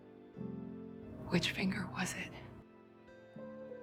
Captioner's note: voiceover